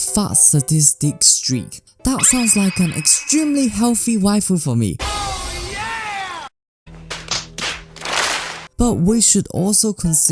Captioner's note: slap